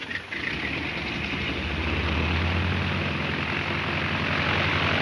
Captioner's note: airplane engine roaring